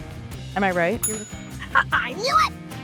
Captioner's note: ding!